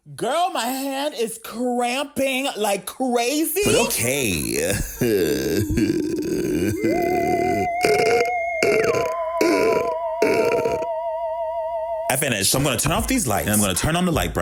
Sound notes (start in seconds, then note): 4.4 laughs; 4.8 spooky music